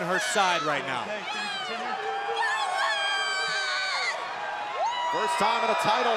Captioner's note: crowd cheering